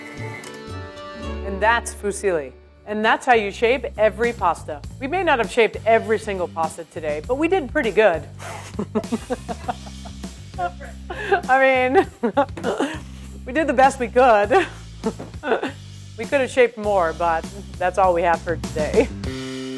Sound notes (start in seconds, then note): 8.4 laughing; 19.5 upbeat music